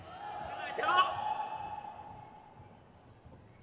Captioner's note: crowd cheers